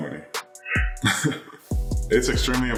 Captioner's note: laughing